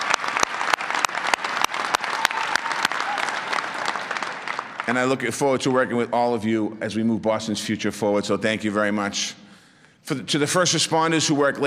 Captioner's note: applause